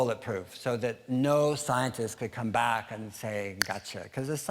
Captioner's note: snap